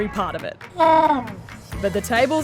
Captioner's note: penguin brays